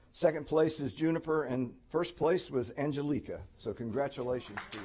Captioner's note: applause